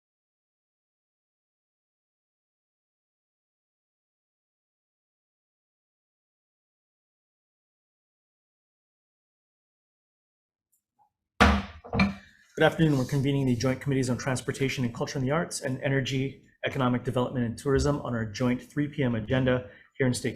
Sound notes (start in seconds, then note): 11.4 gavel clanks